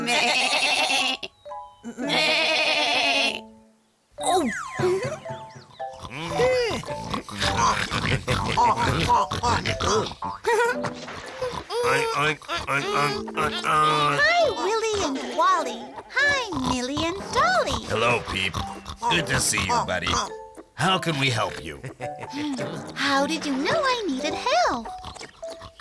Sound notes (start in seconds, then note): 0.3 goats bleating; 4.3 peep giggles; 7.4 pigs snorting; 9.8 peep giggles; 12.2 pigs oinking